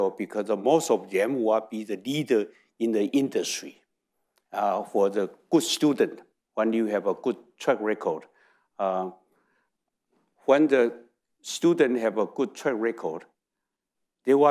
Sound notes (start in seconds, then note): none